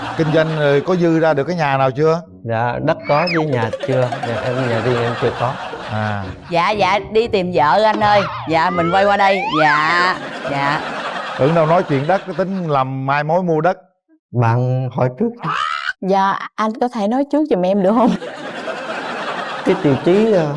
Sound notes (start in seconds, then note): 17.8 laughs